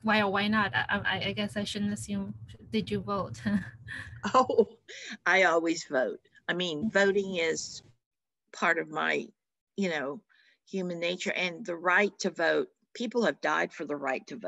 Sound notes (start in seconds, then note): 3.9 chuckles